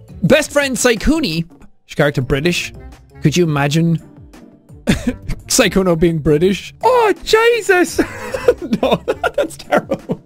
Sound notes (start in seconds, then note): 7.9 laugh